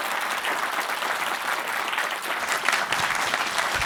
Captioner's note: audience applauding